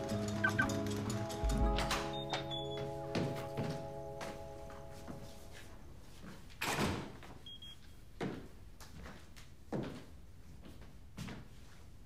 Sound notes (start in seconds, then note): 1.8 car alarm beeps; 7.4 house alarm beeps